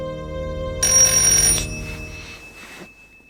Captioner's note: doorbell